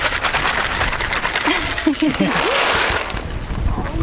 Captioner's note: laughter